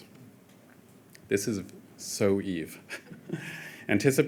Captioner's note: chuckles